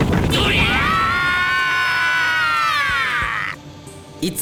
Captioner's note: war cries